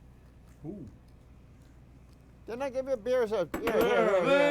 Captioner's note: tool tapping